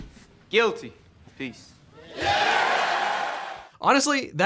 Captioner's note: crowd cheering